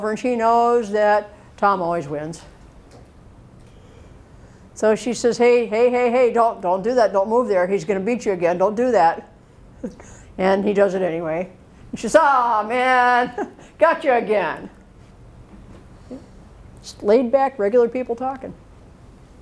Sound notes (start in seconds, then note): 9.8 chuckles; 13.2 chuckles